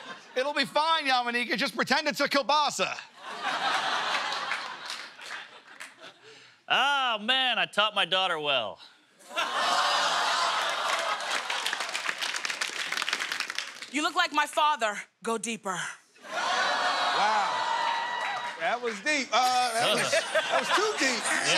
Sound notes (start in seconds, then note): 0.0 laughs; 9.3 crowd ohh's